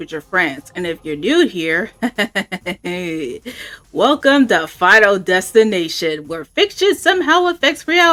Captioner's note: chuckling